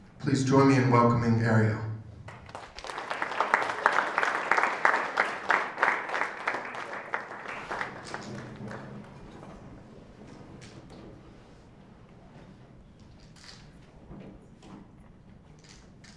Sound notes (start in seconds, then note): 2.2 applause